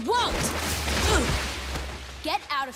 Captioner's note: grunting